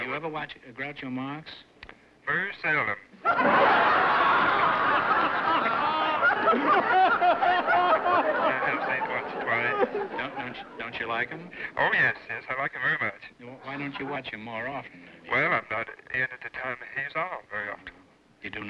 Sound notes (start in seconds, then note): 2.4 on phone; 3.2 laughter; 11.9 on phone; 15.4 on phone